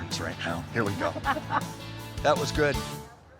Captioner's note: laughs